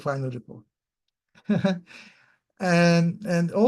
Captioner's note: chuckles